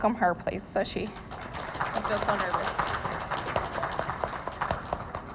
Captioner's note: audience applauding